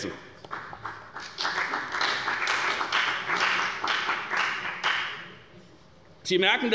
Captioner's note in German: Beifall bei der FDP